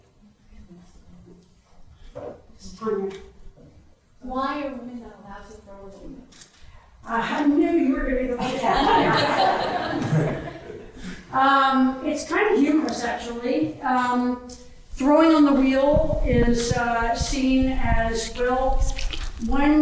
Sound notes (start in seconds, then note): 8.4 audience chuckles